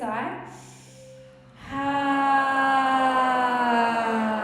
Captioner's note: all sigh audibly